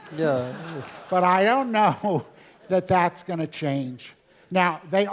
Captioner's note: laugh